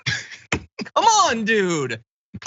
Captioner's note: laugh